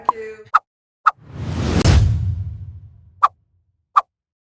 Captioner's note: air whooshing